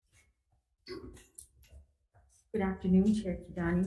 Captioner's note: clears throat